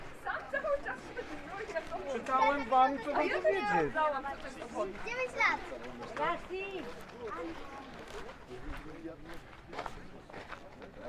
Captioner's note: background chatter